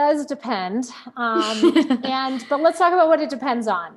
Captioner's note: laughing